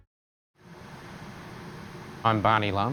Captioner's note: hissing sound